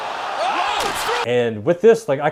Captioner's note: shouting